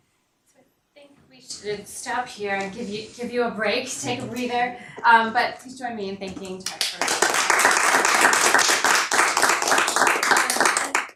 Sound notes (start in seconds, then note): 6.6 clapping